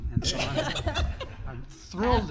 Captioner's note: group laughter